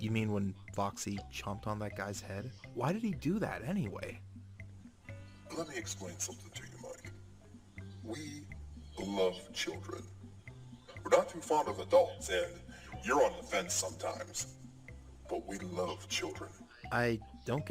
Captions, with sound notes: You mean when Foxy...chomped on that guys head? Why did he do that anyway? *Awkward silence once again* Let me explain something to you Mike... We. Love. Children. We're not too fond of adults, and your on the fence sometimes. But we love children.... I-